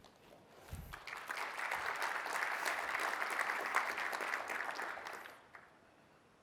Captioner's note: applause